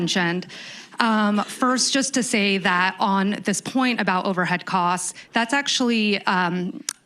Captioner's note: laughter